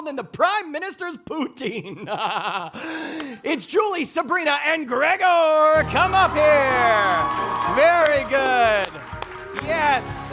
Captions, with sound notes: than the Prime Minister's poutine. It's Julie, Sabrina, and Gregor, come up here. (audience applauding) Very good, yes.